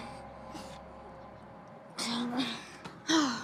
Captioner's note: children grunt